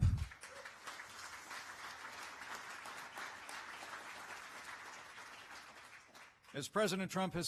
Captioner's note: applause